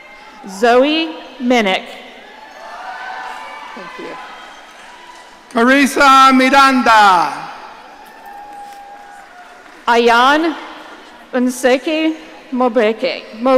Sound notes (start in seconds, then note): 2.2 audience cheering; 7.6 audience cheering